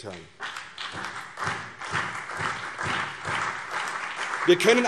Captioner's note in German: Beifall CDU, vereinzelt BÜNDNIS 90/DIE GRÜNEN und SPD